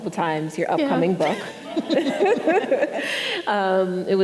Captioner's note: laughs